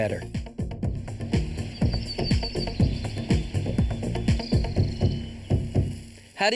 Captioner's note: birds chirping; bright music